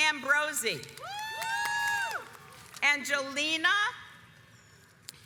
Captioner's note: audience cheers